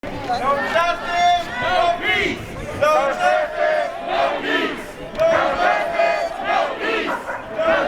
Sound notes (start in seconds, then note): 0.0 crowd